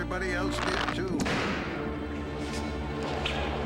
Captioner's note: snap !